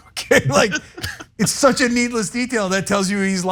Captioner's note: laugh